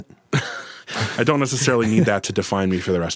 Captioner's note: laughs